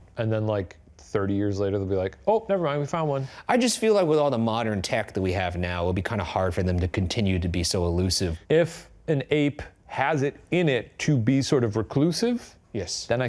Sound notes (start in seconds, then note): none